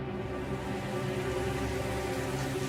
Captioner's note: television hissing